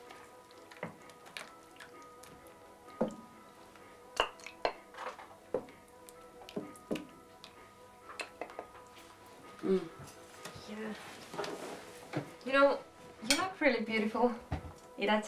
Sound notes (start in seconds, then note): 0.2 gentle instrumental music; 9.7 murmuring